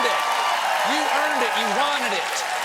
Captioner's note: cheers and applause